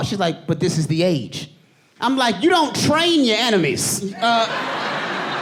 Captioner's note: audience laughing